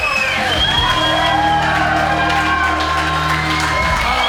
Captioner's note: audience cheering